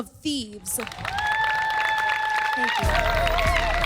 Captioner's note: audience applauding and cheering